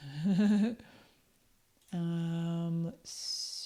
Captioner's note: chuckles